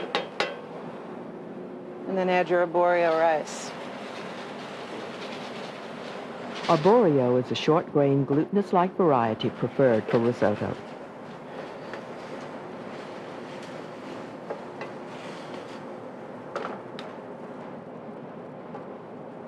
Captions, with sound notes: And then add your aborio rice. - [Voiceover] Aborio is a short grained, glutenous-like variety preferred for risotto.